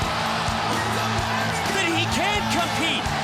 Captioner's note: crowd cheering